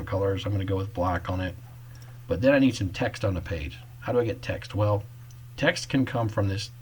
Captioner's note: click